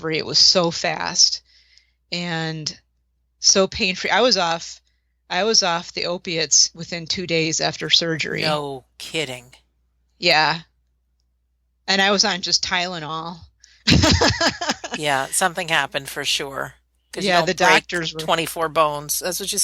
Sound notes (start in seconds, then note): 13.8 laughter